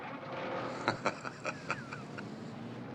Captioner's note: laughing